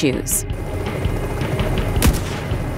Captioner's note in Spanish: helicóptero